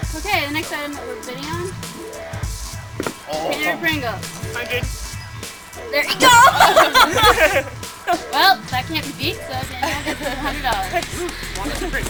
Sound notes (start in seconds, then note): 5.8 background laughter